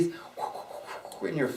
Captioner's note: whooshing mouth noises